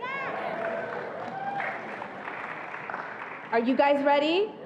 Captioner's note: attendees applauding and cheering